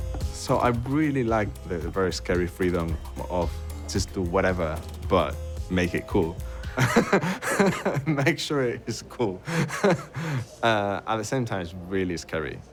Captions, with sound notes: So I really like the very scary freedom of just do whatever but make it cool. [LAUGHS] Make sure it's cool. At the same time it's really scary.